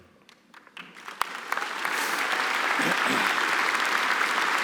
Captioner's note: applause